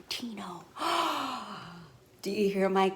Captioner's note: gasping